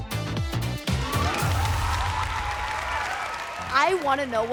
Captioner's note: audience cheering